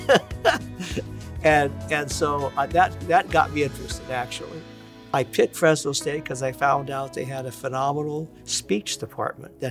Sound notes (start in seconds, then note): 0.0 laughing